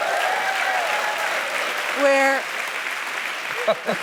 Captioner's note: applause; laughs